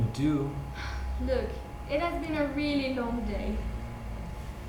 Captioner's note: sighs